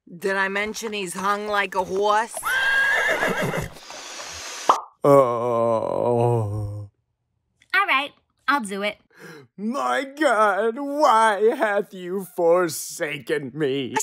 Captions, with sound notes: Did I mention he's hung like a horse? *horse neighs* *gum pops* *Jesus groans* Alright! I'll do it. My God, why hath you forsaken me?